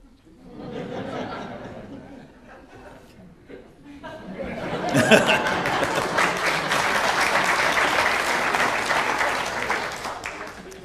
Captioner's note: applause, laughter